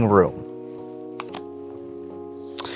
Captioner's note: cards slap